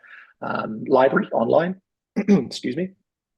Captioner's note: clears throat